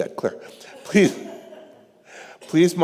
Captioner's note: congregation laughing